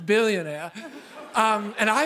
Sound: laughter

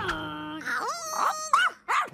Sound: barking

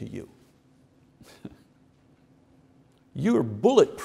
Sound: chuckles

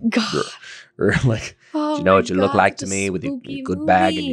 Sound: laughing

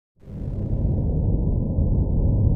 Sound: sounds of space

